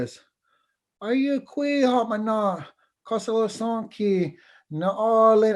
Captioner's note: foreign Language